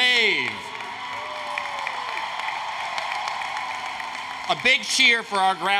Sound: applause, Cheering

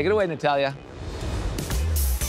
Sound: graphics whoosh

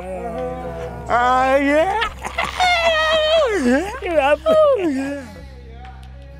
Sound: laughter

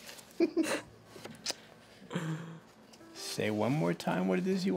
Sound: all chuckling

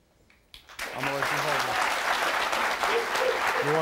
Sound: audience applauds

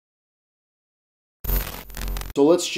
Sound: static

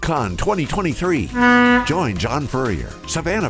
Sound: boat horn blows

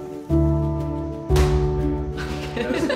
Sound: hands clap; laughs

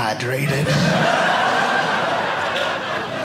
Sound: audience laughing

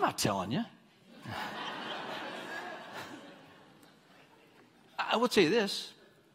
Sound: congregants laughing

